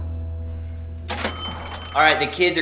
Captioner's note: cash register dinging